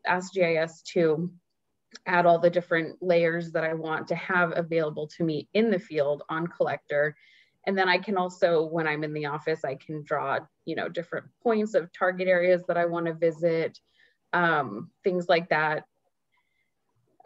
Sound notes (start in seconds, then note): none